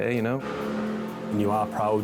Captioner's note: engine revving